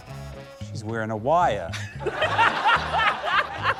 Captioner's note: laughter